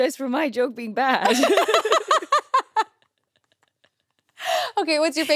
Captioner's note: everyone laughs